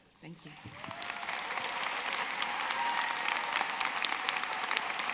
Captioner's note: audience cheering